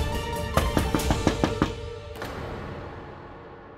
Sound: door knocks

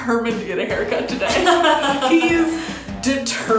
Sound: laughing

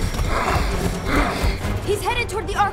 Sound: panting

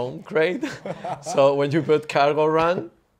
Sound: group laughing

